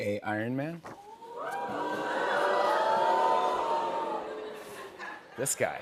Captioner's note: audience oohs